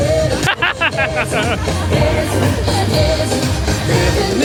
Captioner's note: laughing